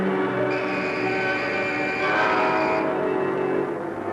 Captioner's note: whistle blows; ominous music